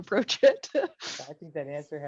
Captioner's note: laughs